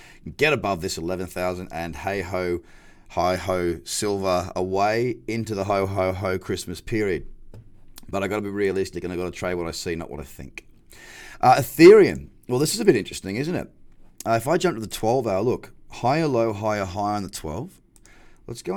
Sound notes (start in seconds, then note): none